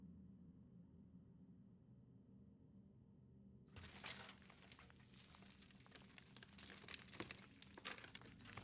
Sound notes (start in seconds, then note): 3.8 dirt crackling